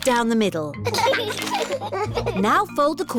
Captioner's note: both giggling